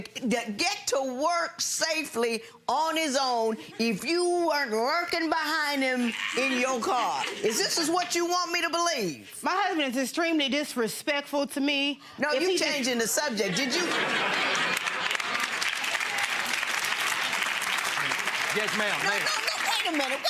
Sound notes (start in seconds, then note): 15.0 audience laughing; 15.8 audience applauding